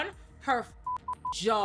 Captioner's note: beep